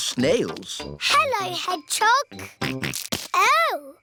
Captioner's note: snorts